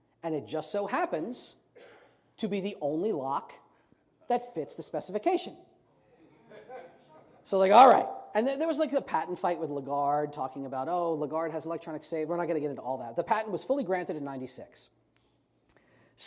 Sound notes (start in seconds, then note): 6.5 scattered laughter